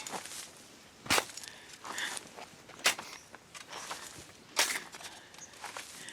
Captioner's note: spade thudding